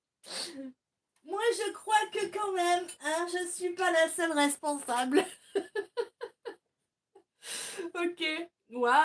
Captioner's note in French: rires